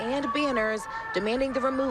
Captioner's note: chanting